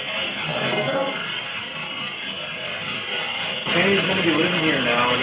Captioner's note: device bangs